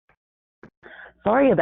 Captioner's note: silence